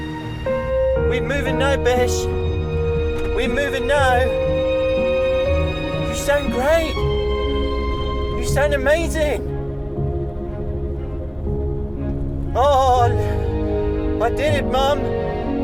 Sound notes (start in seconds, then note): 12.5 tearful